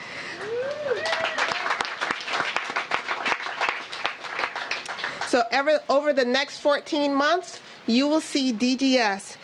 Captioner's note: cheers and applause